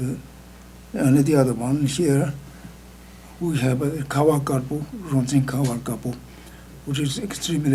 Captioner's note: speaking tibetan; speaking tibetan